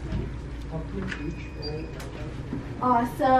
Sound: beeping

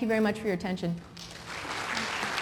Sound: applause

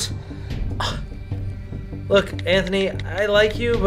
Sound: scoffs

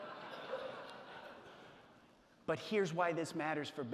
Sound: audience laughing

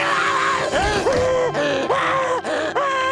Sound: panting

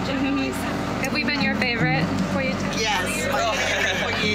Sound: foreign language

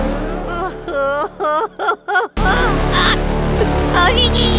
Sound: laughs

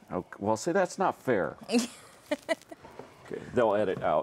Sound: laughs

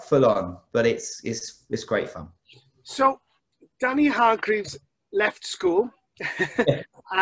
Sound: laughs

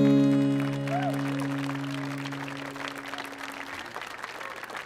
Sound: audience applauding

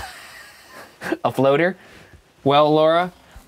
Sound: laughs

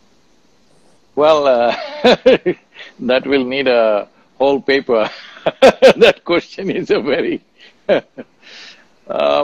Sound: laughs

